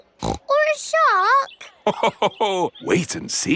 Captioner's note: snorts; laughs